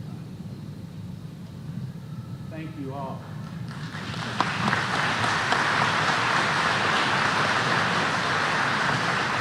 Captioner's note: applause